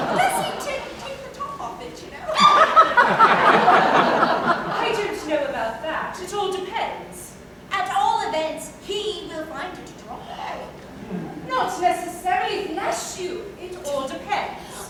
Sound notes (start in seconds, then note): 2.3 laughter